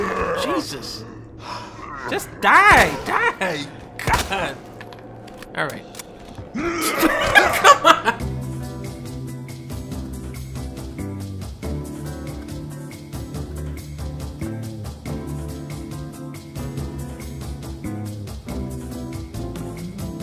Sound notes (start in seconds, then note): 3.2 laughing; 6.4 zombie grunting; 6.5 laughs